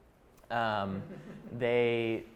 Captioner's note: chuckling